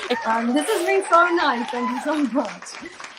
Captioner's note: applause